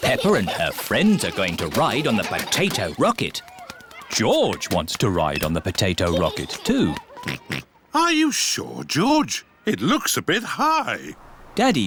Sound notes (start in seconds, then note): 7.2 oinks